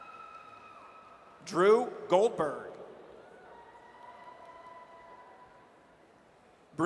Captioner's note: audience cheers